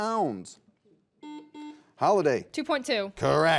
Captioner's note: buzzer buzzes